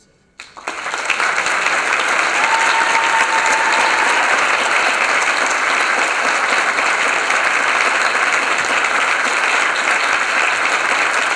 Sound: applause

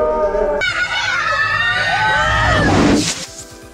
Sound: yelling

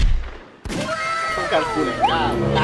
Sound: gunshot fired

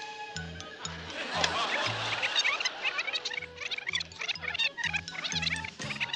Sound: tape rewinding

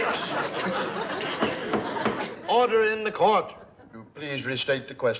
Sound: bangs gavel

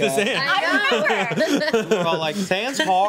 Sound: overlapping chatter

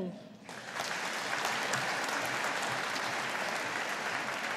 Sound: audience applauding

